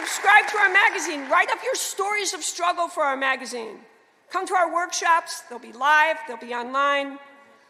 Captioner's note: applause